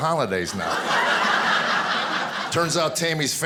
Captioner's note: audience laughing